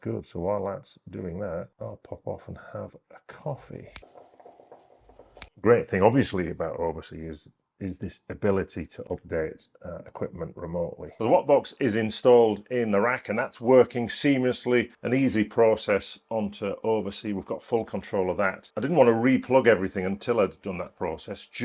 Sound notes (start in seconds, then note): 4.0 water boiling; 5.1 fingers snapping